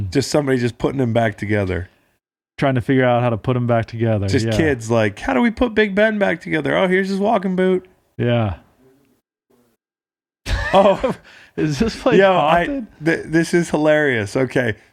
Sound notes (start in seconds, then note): 10.5 laughing